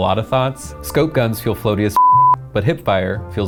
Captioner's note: beep